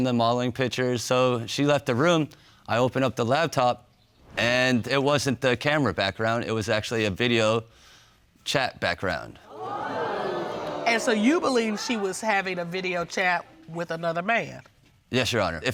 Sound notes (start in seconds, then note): 9.4 audience exclaiming